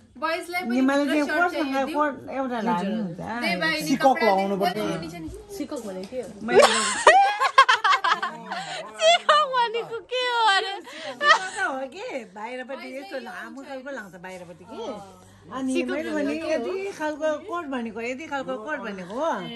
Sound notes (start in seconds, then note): 6.5 laughing; 8.8 mocking